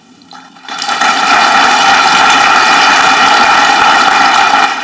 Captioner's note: audience clapping